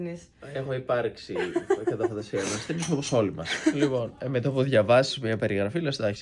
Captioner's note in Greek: γέλια